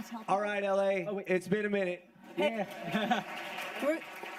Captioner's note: chuckles